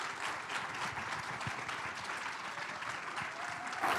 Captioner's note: audience applauding